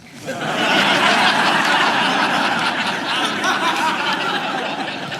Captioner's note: audience laughing